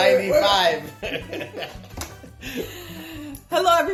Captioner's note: laughter